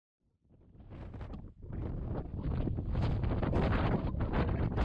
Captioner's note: wind blowing